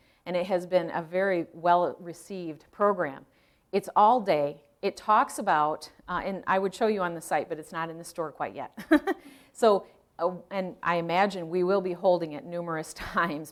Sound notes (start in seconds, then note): 8.8 laughing